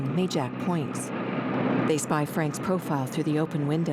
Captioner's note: engine whirring